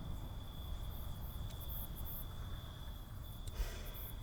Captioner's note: crickets chirp